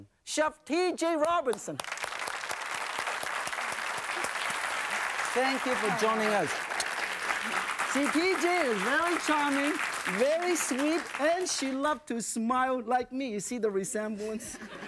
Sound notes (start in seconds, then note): 1.6 applause; 1.6 crowd